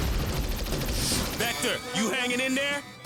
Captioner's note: rapid fire